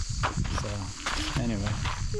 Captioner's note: laughs